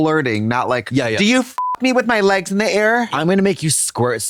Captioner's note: beep